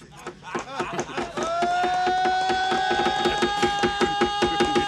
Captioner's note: yelling